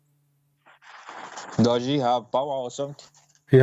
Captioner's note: Bertepuk tangan